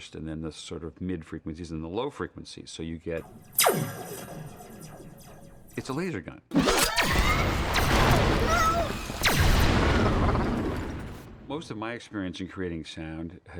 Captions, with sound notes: and then the sort of mid-frequencies and the low frequencies, so you get... (SOUND OF LASER GUN FIRING) It's a laser gun. (WHOOSHING) (WALL-E SCREAMING IN ALARM) Most of my experience in creating sound